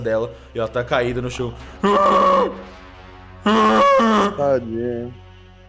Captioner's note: bellows of pain